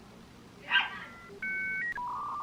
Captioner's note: dialing noises continues